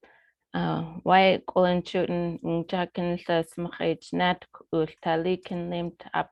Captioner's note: speaking foreign language